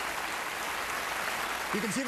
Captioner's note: applause